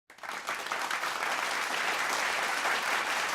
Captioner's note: applause